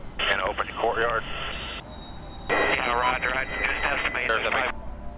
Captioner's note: army helicopter team talking over the radio